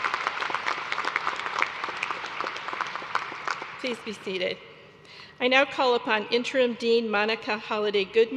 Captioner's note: applause